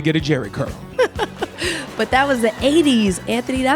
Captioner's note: audience laughing